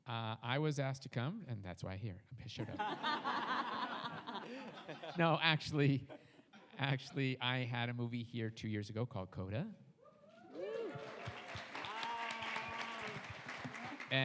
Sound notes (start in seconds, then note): 2.6 everyone laughs; 10.5 audience applauds